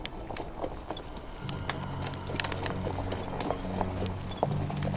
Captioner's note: horses galloping